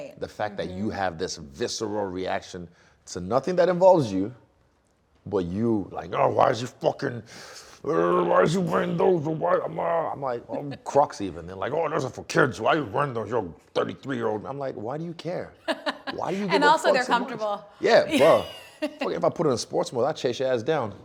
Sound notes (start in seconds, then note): 7.4 growling; 15.7 laughing